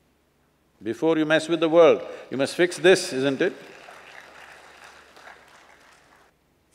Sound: applause

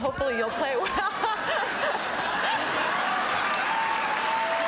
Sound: crowd laughing

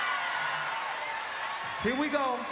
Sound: applause

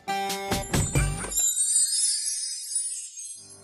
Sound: magical Sound

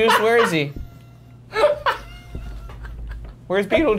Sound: Shane laughing

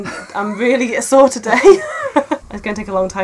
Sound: laughing

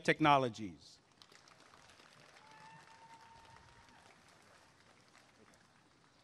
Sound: applause and cheering

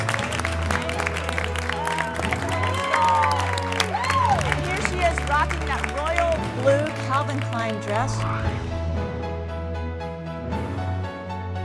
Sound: cheers and applause

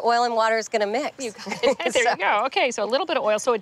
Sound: chuckling

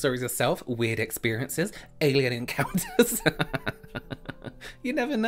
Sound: laughing

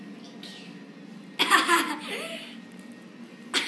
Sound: laughing

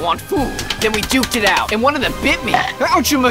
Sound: slapping

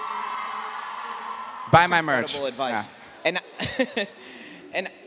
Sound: laugh

